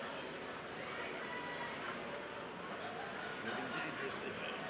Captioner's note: crowd chattering